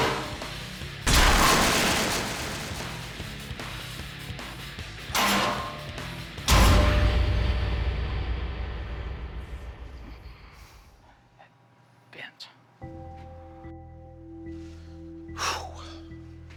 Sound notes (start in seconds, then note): 10.9 whispering; 12.9 suspenseful music